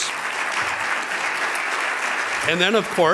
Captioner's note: applauding